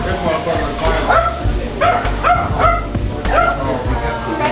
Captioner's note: dogs barking